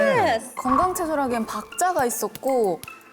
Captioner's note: rebuttal sound effect